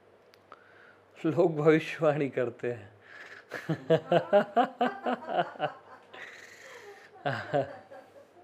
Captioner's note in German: lacht